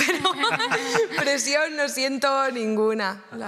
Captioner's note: laughter